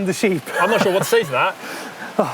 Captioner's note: laughs